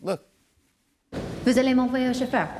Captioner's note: conversing in French